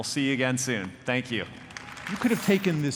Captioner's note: audience appluading